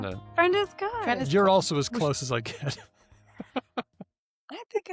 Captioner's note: laughs